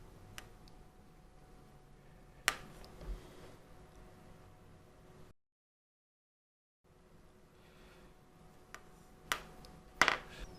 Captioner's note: silence